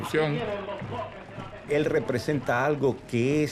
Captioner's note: speaking Spanish